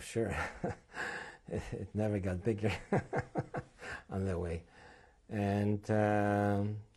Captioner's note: laughs